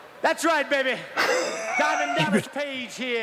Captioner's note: both laughs